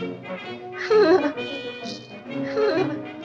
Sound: chuckles

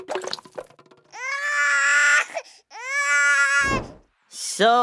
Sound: crying

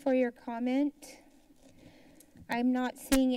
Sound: silence

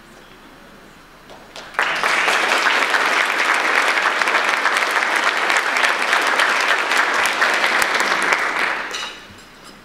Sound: audience applause

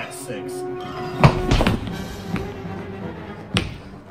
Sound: scuffling

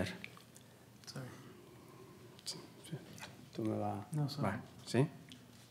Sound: speaking Spanish

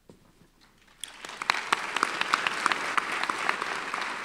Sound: applause

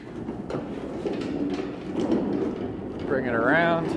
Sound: rack rumbles

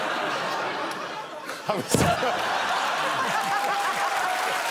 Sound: crowd groaning

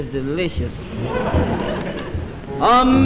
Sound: audience laughing

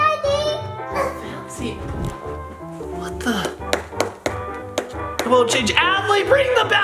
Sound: banging remote

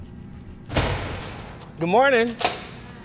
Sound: door opens

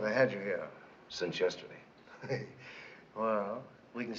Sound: chuckles

